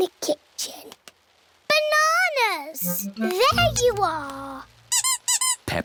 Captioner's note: squeaking